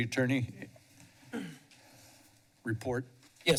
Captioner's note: clears throat